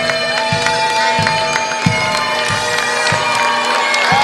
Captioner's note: crowd cheering